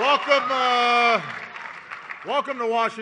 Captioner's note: applause